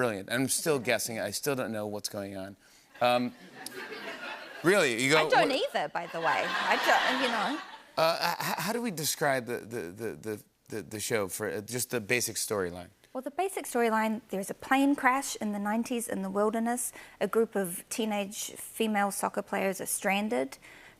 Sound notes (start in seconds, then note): 3.1 laughter